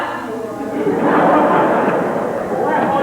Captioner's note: laughter